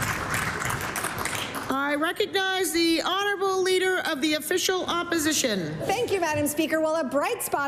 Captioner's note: applause